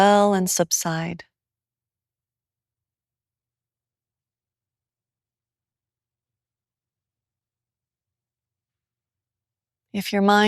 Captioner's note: silence